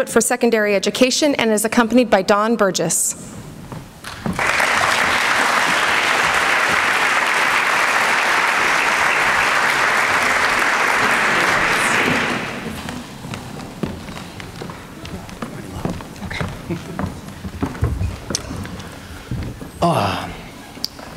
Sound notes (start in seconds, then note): 4.1 applause